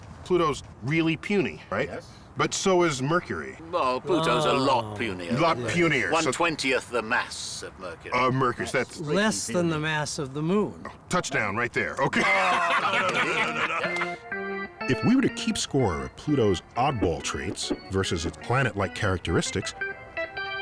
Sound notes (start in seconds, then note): 12.0 laughing